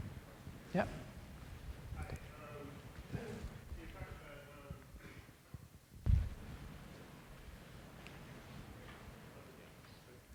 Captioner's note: off mike